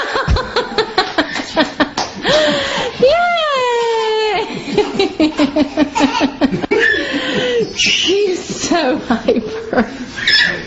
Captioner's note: laugh